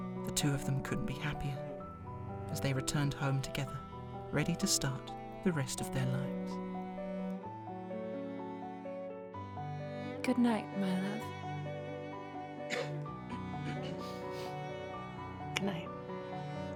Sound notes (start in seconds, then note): 12.7 faint cough